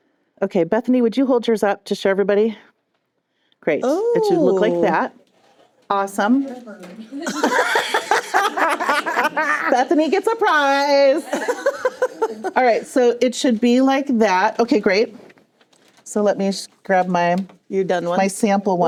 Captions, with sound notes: Okay, Bethany, would you hold yours up to show everybody? Great. It should look like that. Awesome. (Laughter) Bethany gets a prize. (More laughter) All right, so it should be like that-- okay great. So let me grab my sample one.